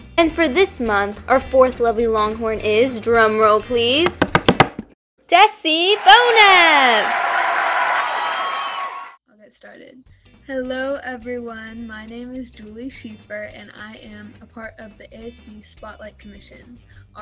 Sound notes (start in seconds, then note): 4.3 drum roll; 5.6 crowd cheering and clapping